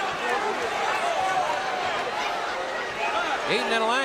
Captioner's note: audience cheering